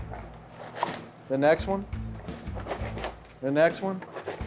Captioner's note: chopping; chopping